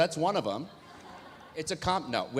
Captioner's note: audience laughs